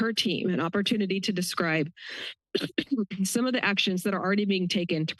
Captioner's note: coughs